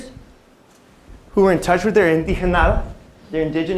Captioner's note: non-english speech